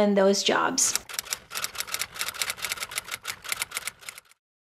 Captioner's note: keyboard clicking